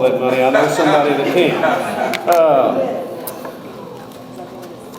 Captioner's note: audience laughs